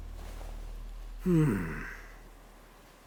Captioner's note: sigh